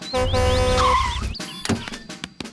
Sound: honks and brakes

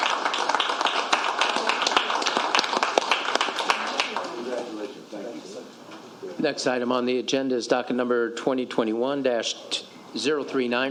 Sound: applause

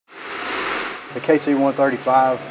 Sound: airplane noise

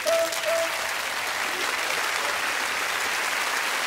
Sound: audience clapping and cheering

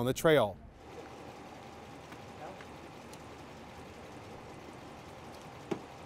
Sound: car engine rumbling

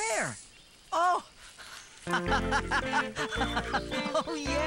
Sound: laughing

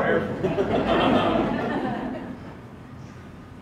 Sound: laughter

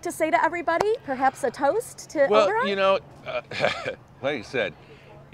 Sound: chuckles

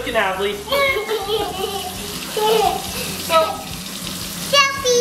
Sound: chuckling

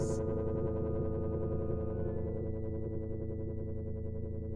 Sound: electronic humming

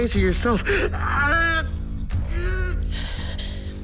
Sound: screaming in Agony

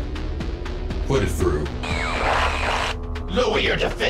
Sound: screen buzzes

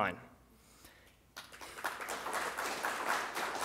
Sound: applause

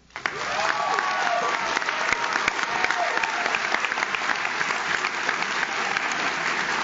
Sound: audience claps; audience cheers

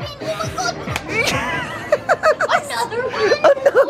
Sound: laughing

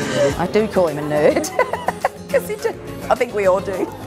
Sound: people laughing; laughs

